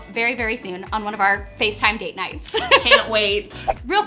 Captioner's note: laughs